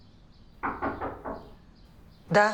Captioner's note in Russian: стук в дверь